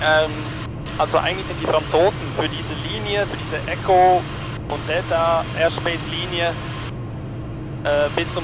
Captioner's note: German